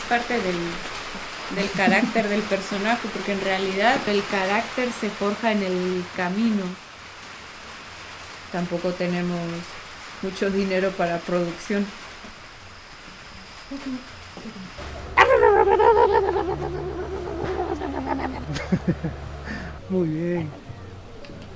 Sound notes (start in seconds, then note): 14.9 barking sounds; 18.1 laughs